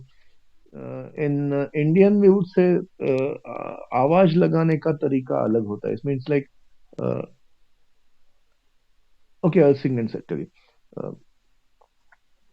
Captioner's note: foreign language